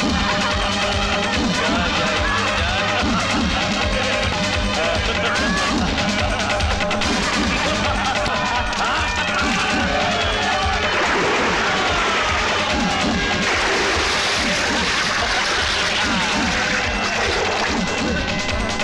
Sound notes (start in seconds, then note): 7.8 laughs